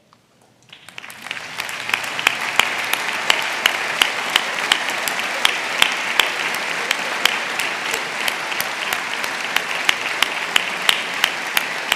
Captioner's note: applause